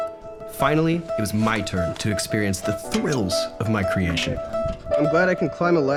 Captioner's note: laughs; narrating